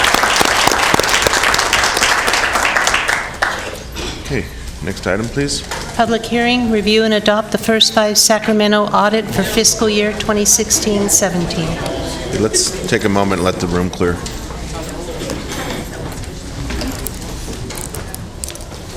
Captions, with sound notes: >> MOTION PASSED. >> CONGRATULATIONS. >> CONGRATULATIONS. >> [ APPLAUSE ]